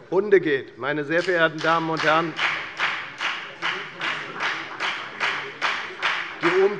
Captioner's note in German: Beifall bei der FDP